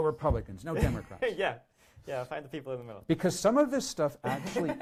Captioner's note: laughs